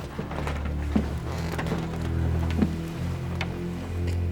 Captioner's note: whispering; floor creaks